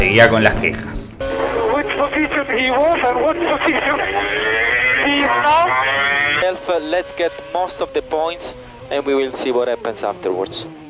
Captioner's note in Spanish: radio